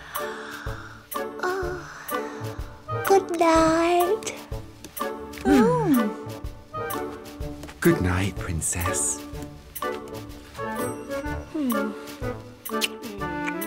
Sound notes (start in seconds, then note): 1.0 yawns